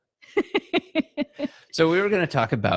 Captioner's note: laughing